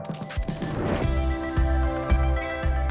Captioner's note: dynamic electronic music; upbeat rock music; air whooshing